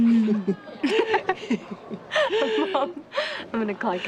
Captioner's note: both laughing